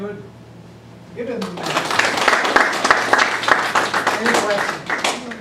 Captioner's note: audience applause